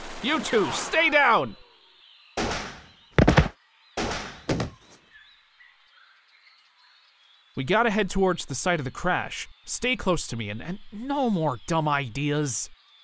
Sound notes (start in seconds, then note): 2.4 gunshot; 4.0 gunshot; 4.0 thud